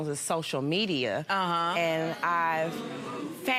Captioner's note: audience murmurs